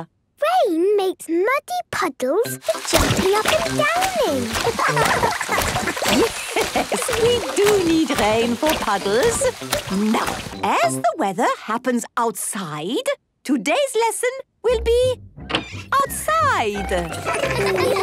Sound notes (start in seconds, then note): 4.5 laughing; 4.7 Madame Gazelle laughing; 17.1 laughter